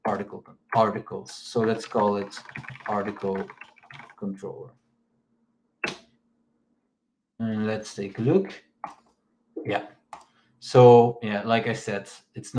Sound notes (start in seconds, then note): 4.7 keyboard clicks